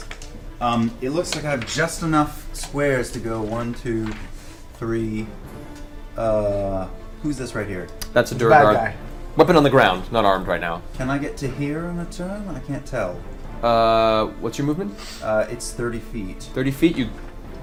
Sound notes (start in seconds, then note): none